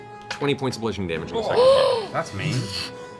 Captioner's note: gasps